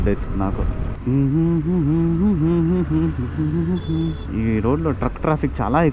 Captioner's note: humming